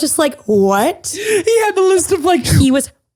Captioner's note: laughing